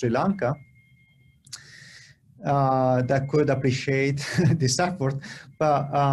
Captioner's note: laughter